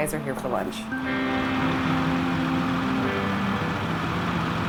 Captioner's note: tractor engines